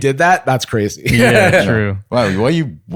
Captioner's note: laughs; laughing